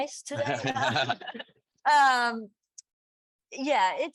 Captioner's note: panelists laughing